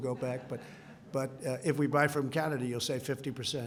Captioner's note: laughter